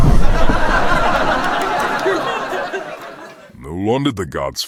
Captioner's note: audience laughing